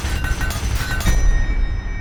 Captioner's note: ding!